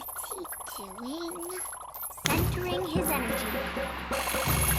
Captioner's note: dramatic music; gong bongs; nun chucks whirring